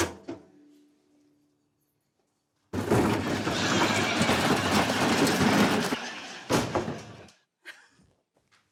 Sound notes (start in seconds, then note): 2.7 bin rattles